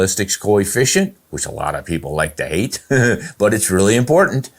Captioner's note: chuckles